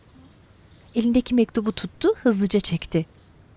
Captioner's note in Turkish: Kuş sesleri